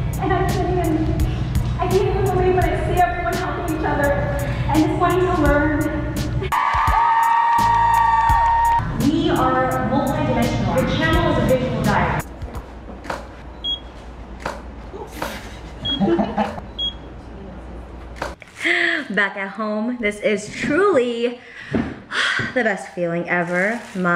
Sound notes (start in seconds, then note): 6.5 audience cheering; 13.5 camera beep and shutter; 15.0 photographer laughs